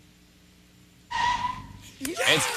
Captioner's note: tires screeching